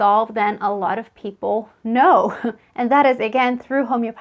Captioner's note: laughs